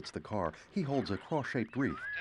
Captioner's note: radio static